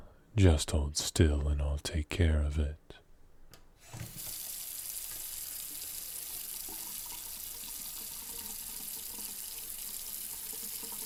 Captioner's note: washing noises